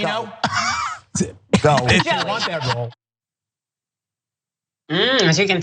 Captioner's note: laugh